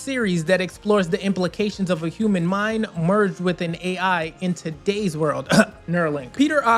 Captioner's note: ahem